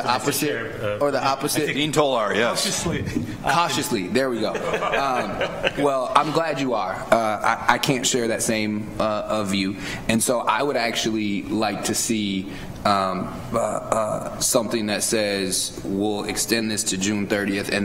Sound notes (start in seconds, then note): 5.2 board members laugh